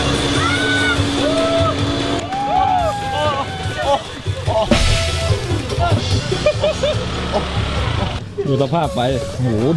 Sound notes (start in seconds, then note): 5.0 chuckles